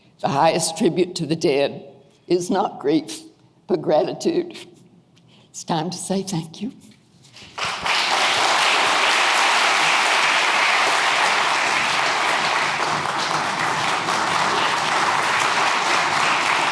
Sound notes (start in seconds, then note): 7.7 audience applauding